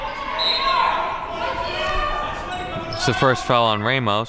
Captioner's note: whistle blows